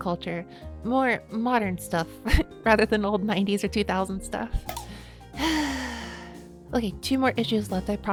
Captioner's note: sigh